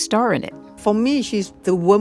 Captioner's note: soundbite of archived npr broadcast